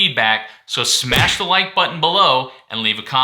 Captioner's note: smashing sound